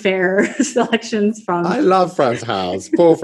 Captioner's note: laughs